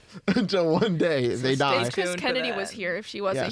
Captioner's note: laughs